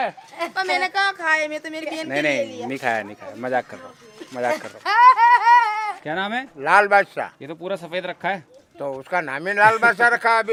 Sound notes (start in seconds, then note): 5.5 laughs